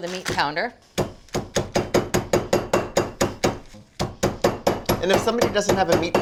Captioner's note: meat pounder thudding